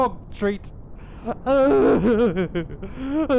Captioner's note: pathetic weeping